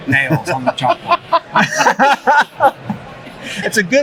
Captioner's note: all laugh